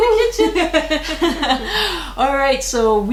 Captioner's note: laughing